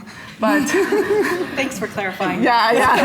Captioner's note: audience laughing